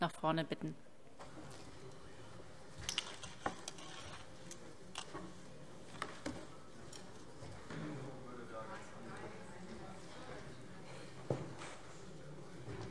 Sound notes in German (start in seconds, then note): none